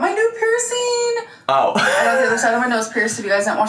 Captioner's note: chuckles